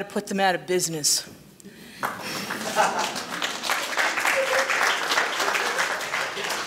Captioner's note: light laughter and applause